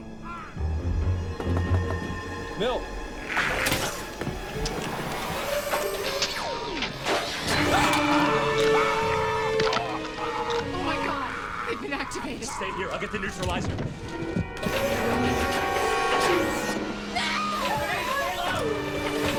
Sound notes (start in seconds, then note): 7.4 scream; 17.1 female scream